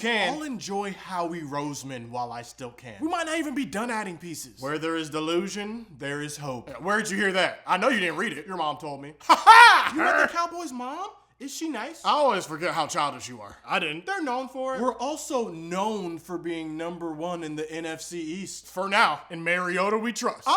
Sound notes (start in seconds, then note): 9.2 even weirder laughing; 9.2 weird laughing